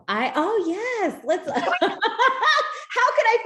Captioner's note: laughs